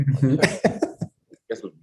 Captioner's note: laughs